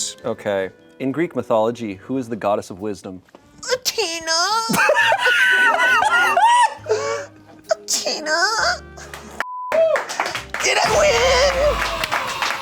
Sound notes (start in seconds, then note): 4.4 laughs; 9.8 crew applauds